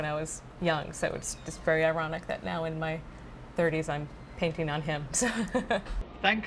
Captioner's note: laughs